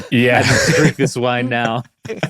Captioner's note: laughing